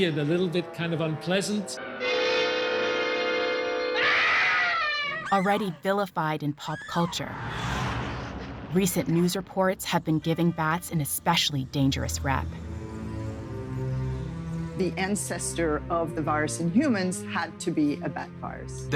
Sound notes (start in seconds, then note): 3.5 screams